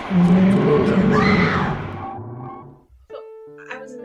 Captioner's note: screaming